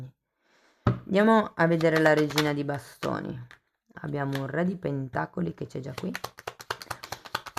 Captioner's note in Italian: Applauso